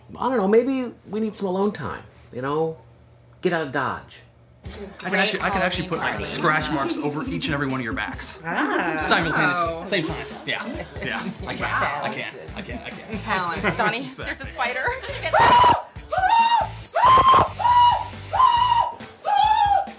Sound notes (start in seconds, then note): 8.5 women gasp; 16.1 screams hysterically